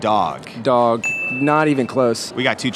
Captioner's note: bell dings